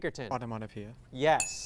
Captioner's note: ding